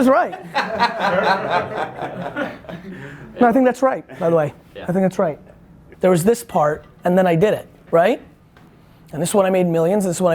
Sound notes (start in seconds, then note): 0.1 group laughter